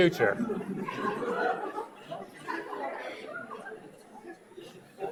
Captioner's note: audience laughs